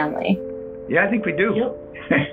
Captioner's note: laughs